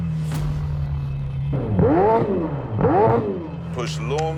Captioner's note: engine revving